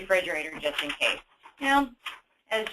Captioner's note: rustling paper